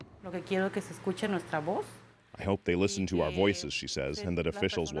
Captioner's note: speaking spanish